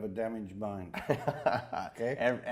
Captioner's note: interviewer laughing